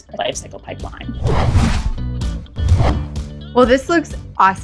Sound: upbeat music; air whooshing

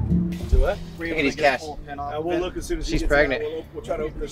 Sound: all chattering

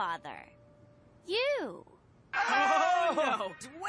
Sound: scream

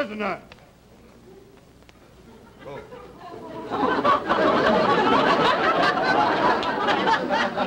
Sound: audience laughter

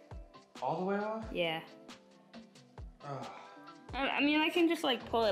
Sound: sigh

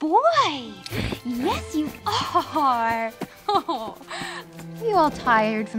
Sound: chuckling

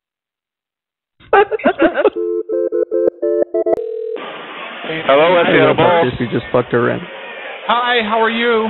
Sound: laughing; phone ringing

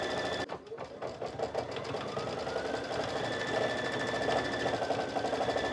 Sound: sewing machine running

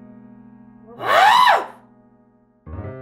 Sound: Agnes sneers

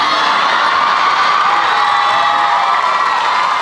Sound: crowd cheers and applauds

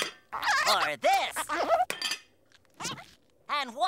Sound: squeaking

